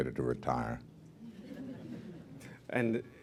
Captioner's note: laughter